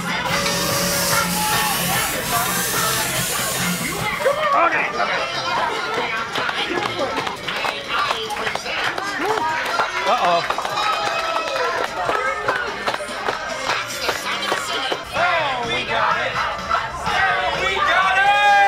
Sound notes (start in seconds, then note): 0.3 train whistle; 6.2 clapping; 11.7 cheering